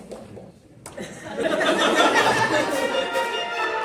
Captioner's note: laughter; closing Music